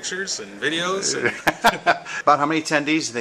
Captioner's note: laughter